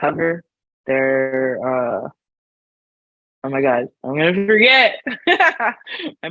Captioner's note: laughs